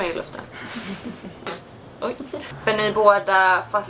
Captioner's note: laughts